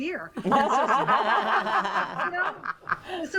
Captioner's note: hosts laugh